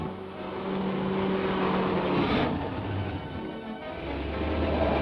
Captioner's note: engine rumbles